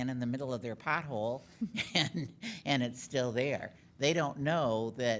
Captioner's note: laughing